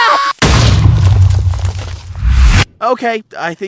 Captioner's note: big explosion